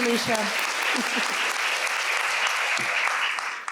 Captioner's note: applause